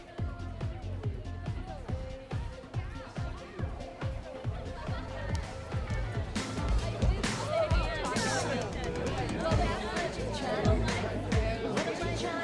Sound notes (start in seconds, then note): 0.2 upbeat music; 6.9 groovy music; 6.9 people chattering